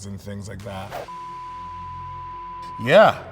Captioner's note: long beep